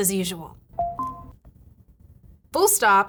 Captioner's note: notification pinging